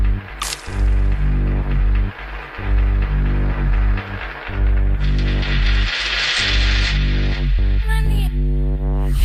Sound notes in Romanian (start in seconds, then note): 0.2 Aplauze